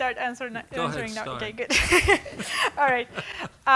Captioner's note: laughing